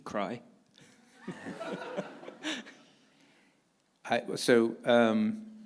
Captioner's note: audience laughing